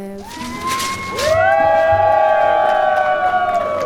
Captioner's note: crowd cheers